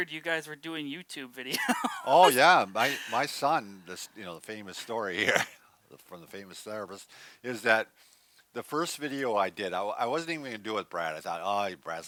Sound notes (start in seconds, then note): 1.5 laughs; 5.1 scoffs